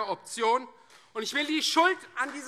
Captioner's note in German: Vereinzelter Beifall Freie Demokraten